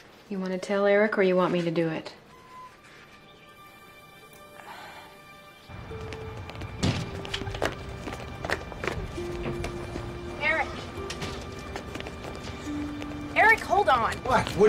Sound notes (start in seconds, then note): 2.6 somber music; 4.5 Caitlin sighs; 6.3 somber music